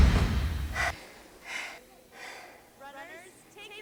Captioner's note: Yuen breathing heavily